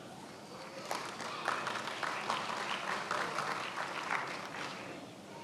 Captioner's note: attendees applauding